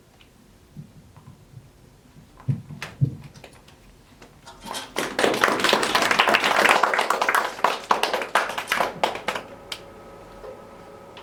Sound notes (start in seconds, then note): 1.0 applause